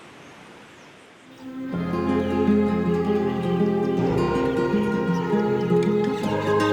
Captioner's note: gentle music; birds chirping